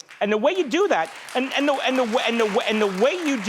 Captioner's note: audience applauding